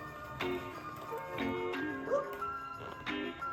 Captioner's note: squeak